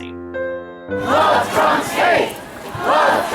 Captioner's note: crowd